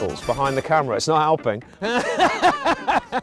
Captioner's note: laughs